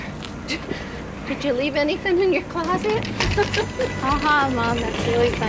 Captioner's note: laughs